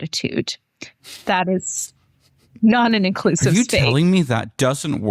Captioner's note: laughter